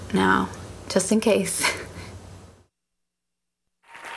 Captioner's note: crowd cheering